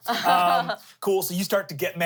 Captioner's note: laughs